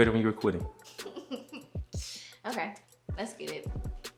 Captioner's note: giggles